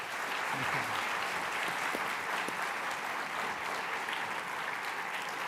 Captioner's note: applause